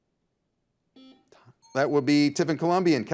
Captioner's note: buzzer buzzes